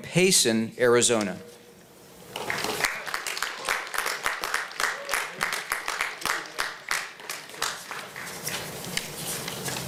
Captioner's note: applause